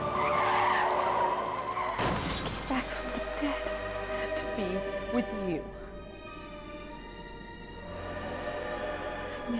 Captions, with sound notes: (tires screech) (crashing) Back from the dead to be with you.